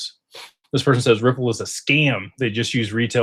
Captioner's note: snorts